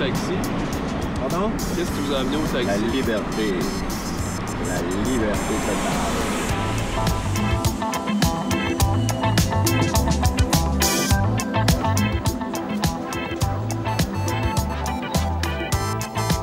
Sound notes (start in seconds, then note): 7.2 airplane whooshing